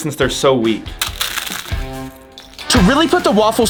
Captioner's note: cone crunching